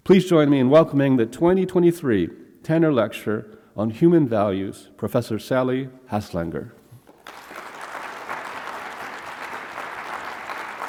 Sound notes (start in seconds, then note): 7.1 audience applauding